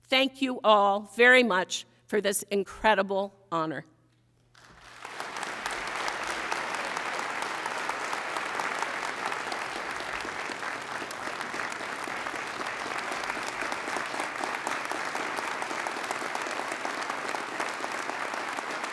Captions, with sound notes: Thank you all very much for this incredible honor, (audience applauding)